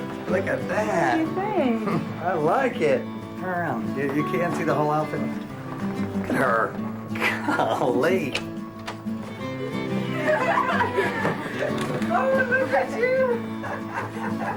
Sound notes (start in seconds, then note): 9.6 laughter